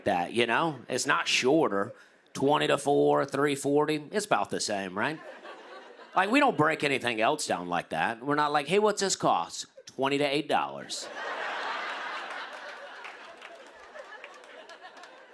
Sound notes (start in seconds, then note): 11.0 laughter